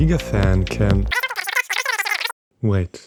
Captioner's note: teammate talking through the phone